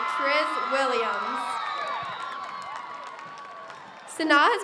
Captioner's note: audience cheers